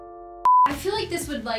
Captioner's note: piano music; beep sound